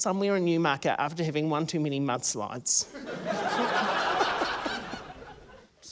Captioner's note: laughter